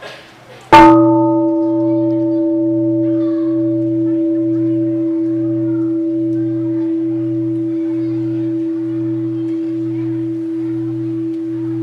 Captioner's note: gong sound